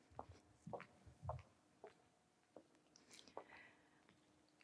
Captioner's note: footsteps clacking